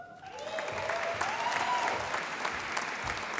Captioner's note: applause